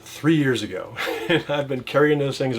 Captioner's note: laughs